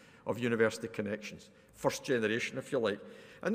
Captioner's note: none